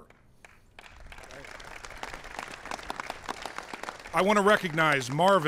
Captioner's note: applause